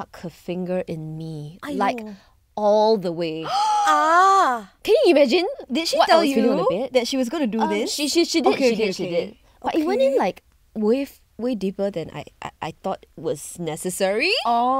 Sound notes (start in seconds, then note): 3.4 gasp